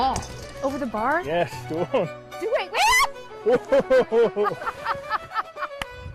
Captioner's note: laughter